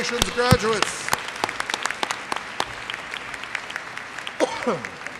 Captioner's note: audience applauds